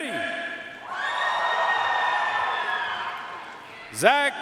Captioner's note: audience cheering and applauding